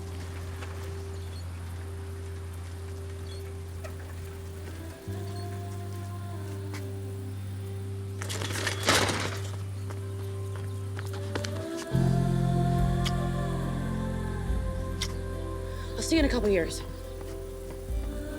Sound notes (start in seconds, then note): 0.1 soft music; 8.2 bicycle banging on the ground; 11.6 soft music